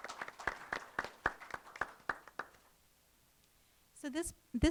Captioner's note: applause